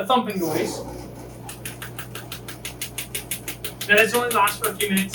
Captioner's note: machine thumping